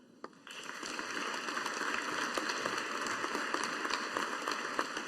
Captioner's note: audience applauding